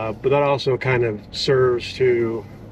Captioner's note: none